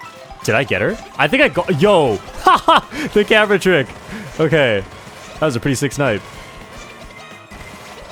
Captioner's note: laughs